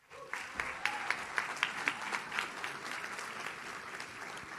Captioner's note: audience claps